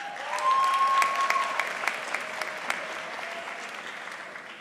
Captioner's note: audience applauding